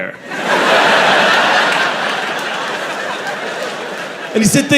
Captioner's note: crowd laughs